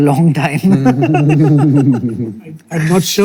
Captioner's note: all laughing